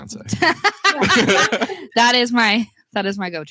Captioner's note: laughs